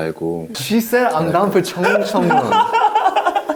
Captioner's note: splashing; laughing